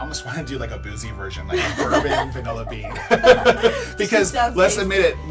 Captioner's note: both laughing